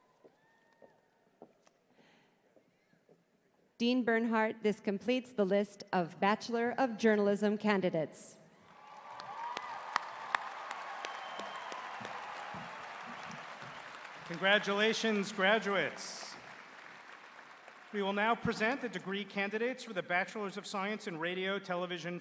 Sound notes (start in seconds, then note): 11.8 cheers and applause